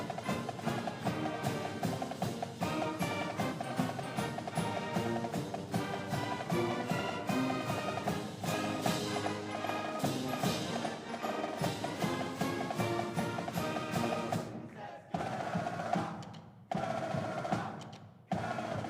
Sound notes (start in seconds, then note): 14.9 trumpeters yelling